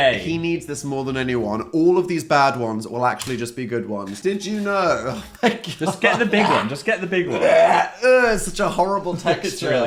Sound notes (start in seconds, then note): 4.4 laughing; 7.2 Dan gagging